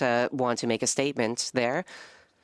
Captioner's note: speaking French